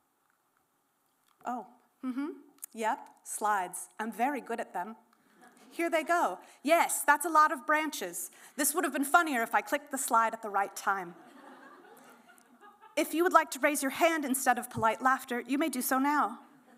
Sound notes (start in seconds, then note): 11.1 laughter